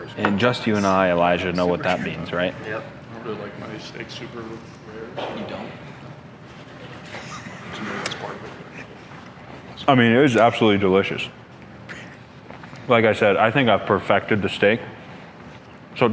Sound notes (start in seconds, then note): 7.0 background laughter